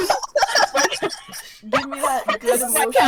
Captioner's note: more hehehoho laughs